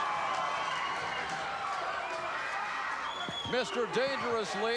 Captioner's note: audience cheering